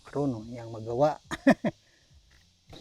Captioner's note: laughs